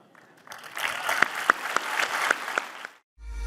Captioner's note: applause